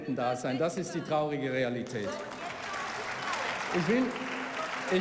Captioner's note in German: Beifall